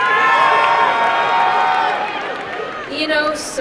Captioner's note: applause and cheering